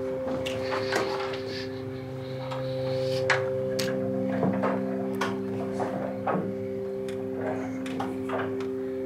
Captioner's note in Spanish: Sonidos al cerrar la puerta